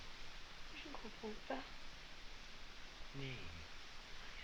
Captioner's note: girl continues speaking french